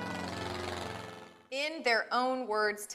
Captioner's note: airplane engine